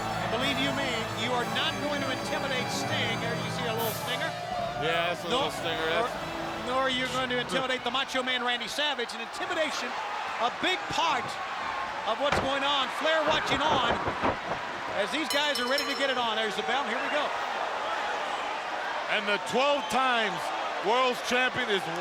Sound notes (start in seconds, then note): 15.2 bell rings